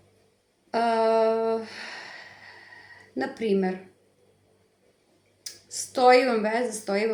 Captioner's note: sigh